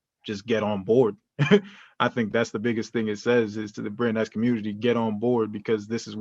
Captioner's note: laughter